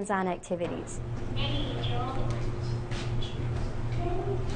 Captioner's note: television plays